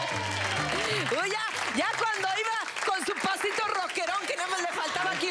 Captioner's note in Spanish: Aplausos; Exclamaciones; Risas